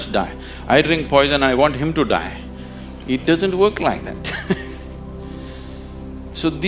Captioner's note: laughs